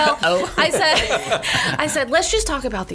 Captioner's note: laughs